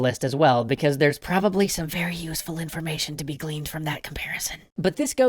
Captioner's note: whispers